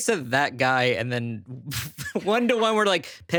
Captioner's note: laughing